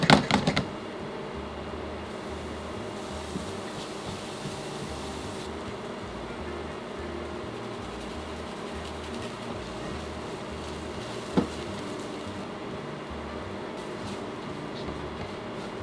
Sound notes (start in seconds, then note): 8.1 grating